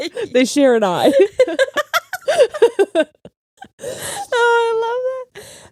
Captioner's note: laughing